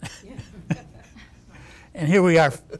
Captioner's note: laughing